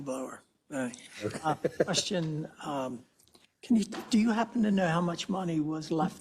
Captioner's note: laugh